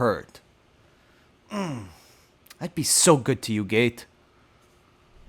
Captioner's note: moans